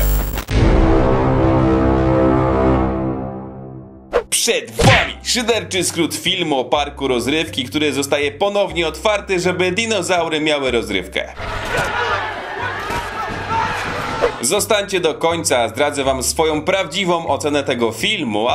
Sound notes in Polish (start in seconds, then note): 11.4 odgłosy paniki